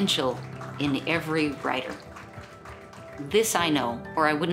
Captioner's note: crowd clapping